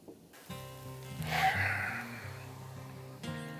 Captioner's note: sighs